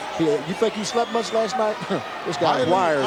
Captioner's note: chuckling